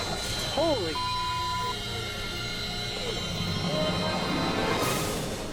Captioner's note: autogyro slams; beep